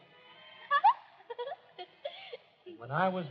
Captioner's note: laughs